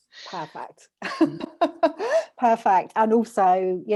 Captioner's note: laughs